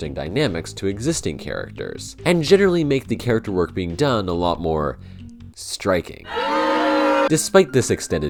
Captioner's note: crowd booing